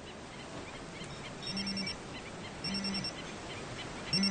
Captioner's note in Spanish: Teléfono timbrando